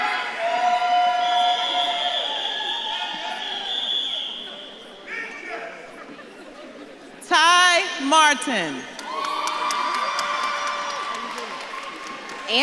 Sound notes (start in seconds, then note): 0.3 audience claps and cheers; 5.1 audience member shouts; 5.8 audience laughs; 9.6 audience claps and cheers